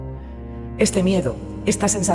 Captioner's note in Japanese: 劇的な一時停止。音楽が一瞬止まり、 ナレーターの呼吸音だけが聞こえます。